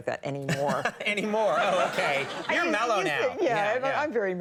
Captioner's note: laughs